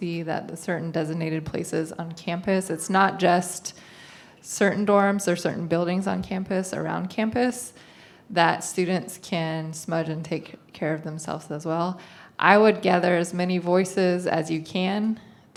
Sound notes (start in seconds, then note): none